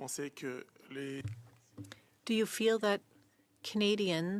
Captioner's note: speaking French